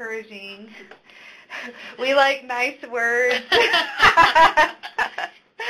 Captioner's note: laughter